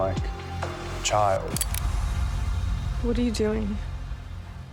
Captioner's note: gun clicks